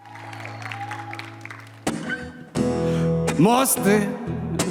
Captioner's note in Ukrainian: оплески